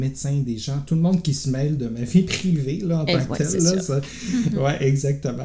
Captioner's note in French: rires